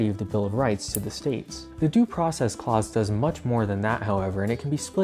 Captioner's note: nail clippers snip